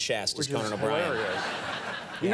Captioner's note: audience laughing